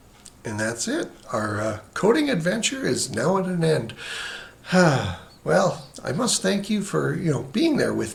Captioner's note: sighs